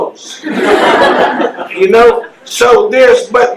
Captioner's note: laughing